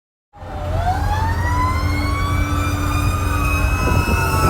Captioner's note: sirens blaring